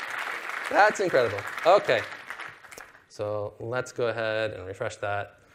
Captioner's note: applause